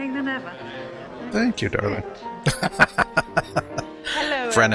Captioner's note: laughing